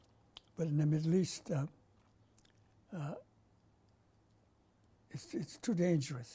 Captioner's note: pauses for 3 seconds